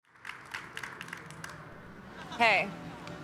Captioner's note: audience applauding